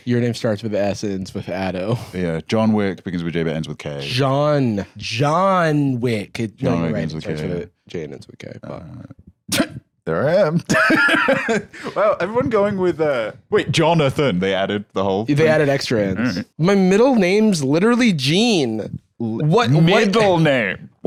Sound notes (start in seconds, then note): 10.6 laughs